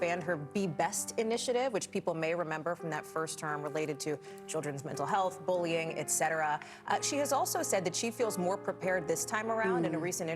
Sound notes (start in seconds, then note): none